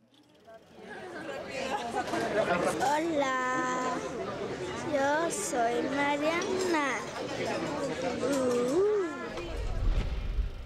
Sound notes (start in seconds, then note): 0.9 people talking and laughing; 2.9 girl speaking foreign language